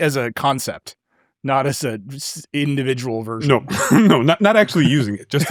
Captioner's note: chuckles